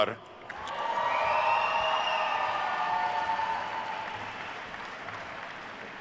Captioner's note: attendees cheering and applauding